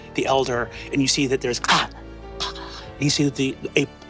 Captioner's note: mimics chomping